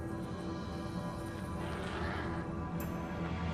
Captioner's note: roars continue